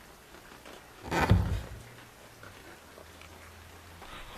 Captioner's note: wood creaking